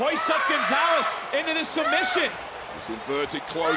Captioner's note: Gonzalez screaming